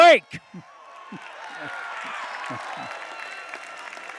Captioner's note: applause